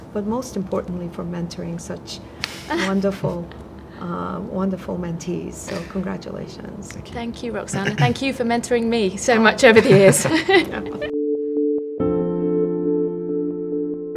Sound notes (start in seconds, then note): 9.5 all chuckling; 10.7 soft music